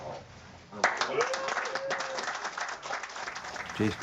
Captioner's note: cheering and applause